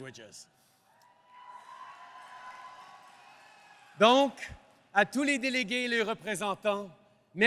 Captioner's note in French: Applaudissements